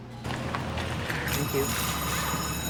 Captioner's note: bell rings